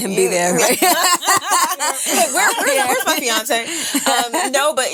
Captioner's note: women laughing